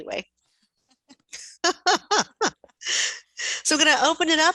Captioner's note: all laughing